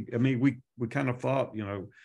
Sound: none

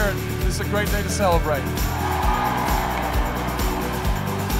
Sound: cheering

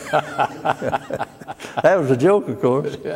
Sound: laughter

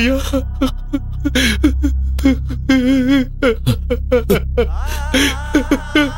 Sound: crying

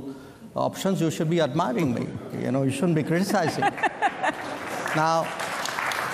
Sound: laughter and applause

